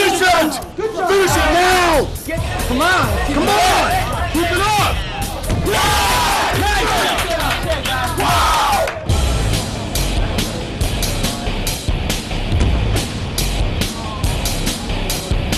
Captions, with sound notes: FINISH IT! FINISH IT NOW! COME ON! COME ON! KEEP IT UP! [CHEERING] WHOO!